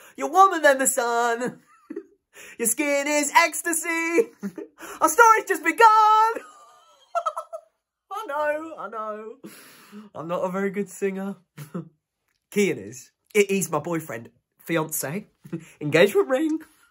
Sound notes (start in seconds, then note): 6.3 laughing